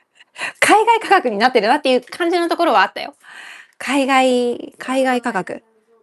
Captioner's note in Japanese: 息をのむ音